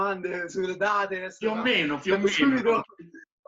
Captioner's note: laughs